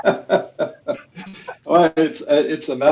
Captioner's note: laughs